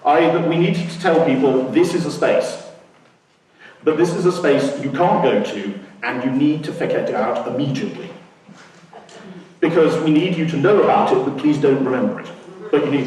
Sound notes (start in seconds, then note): 8.8 laughing